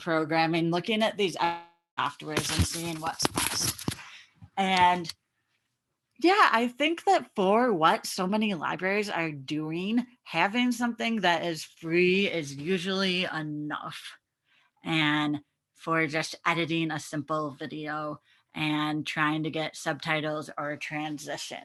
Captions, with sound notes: and looking at these afterwards and seeing what's (audio muffing) and yeah, I think that for what so many libraries are doing, having something that is free is usually enough. And for just editing a simple video and trying to get subtitles or translations.